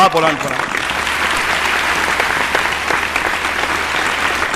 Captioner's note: appreciative applause